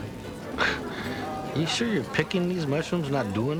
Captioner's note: scoffs